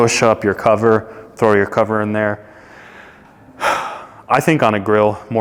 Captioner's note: sighs